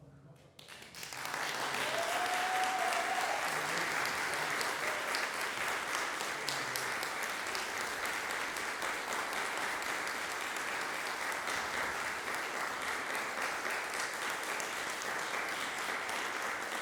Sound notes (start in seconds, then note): 0.2 applause breaks out, punctuated with cheers; 5.6 applause continues